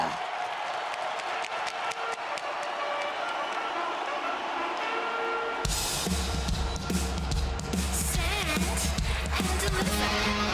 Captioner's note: applause